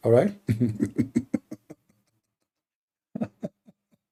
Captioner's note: Ketawa